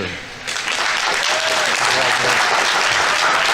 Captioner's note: audience applauding; audience members cheering